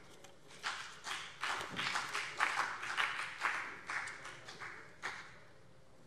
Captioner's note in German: Beifall BÜNDNIS 90/DIE GRÜNEN und vereinzelt CDU